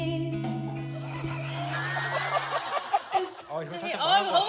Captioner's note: burst out laughing without realizing it